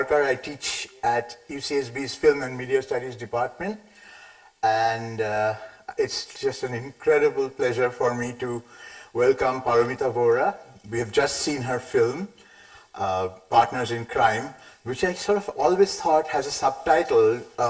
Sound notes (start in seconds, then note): none